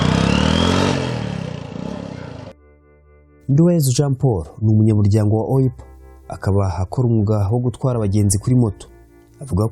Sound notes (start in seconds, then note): 3.7 speaking in Kinyarwanda